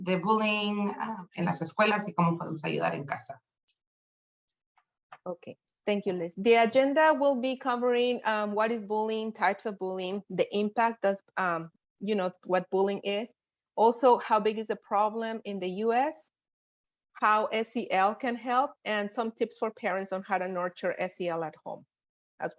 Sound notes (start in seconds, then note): 1.8 speaking in foreign language